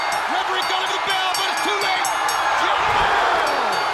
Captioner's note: bell ringing